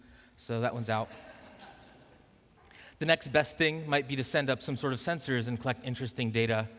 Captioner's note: laughing